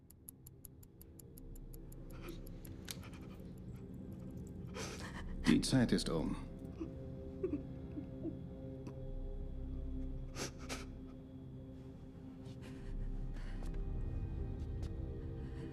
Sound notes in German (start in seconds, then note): 0.9 schnieft